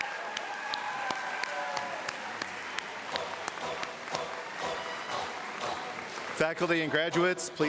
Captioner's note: applause